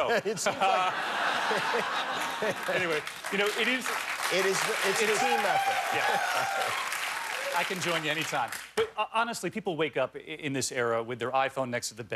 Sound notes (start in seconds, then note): 2.9 laughter; 3.2 cheers and applause